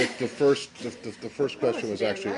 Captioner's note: laughter